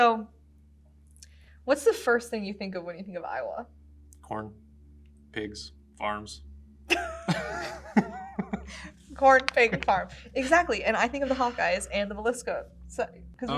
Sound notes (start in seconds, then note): 6.9 laughs